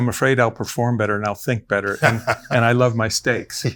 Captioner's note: laughs